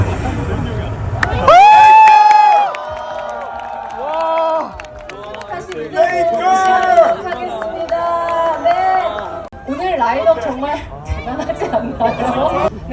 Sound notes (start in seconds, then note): 1.2 clap